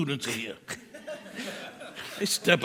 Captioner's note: laughter